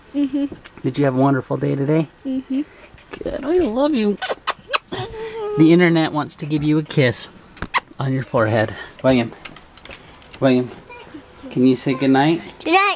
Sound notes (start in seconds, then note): 4.2 makes kissing noise; 7.5 kisses